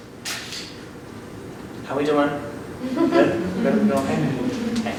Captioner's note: audience laughs